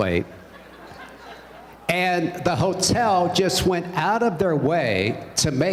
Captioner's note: laughter